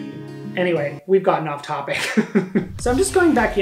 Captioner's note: chuckles